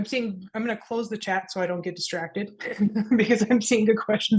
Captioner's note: laughs